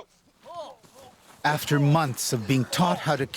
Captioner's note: voiceover